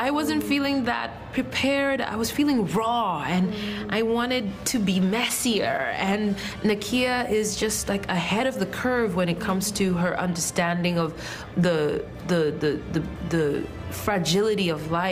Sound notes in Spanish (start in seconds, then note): 0.5 habla en ingés